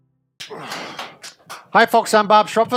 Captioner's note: grunts